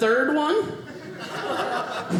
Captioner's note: audience laughing